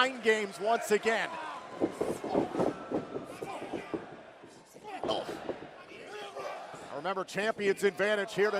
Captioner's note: crowd cheering